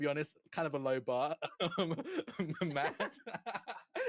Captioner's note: chuckling; laughing